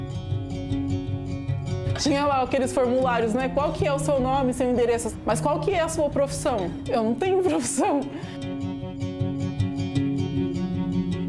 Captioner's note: speaking non-English language